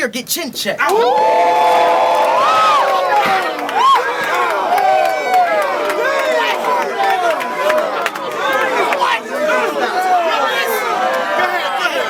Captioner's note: crowd Reaction